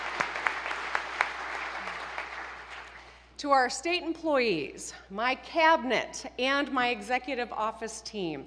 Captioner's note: applause